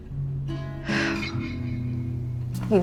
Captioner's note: June exhales